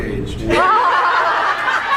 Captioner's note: laughs